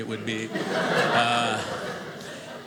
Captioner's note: audience laughing